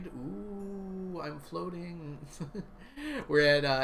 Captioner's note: laughs